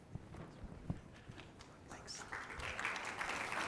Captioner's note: applause